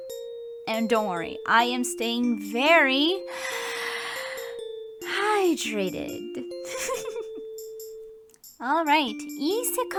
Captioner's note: breathes in